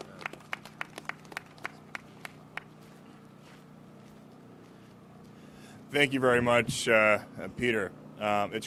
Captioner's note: applause